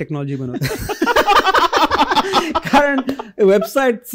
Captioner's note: laughter